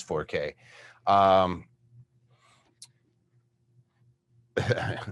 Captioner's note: laughs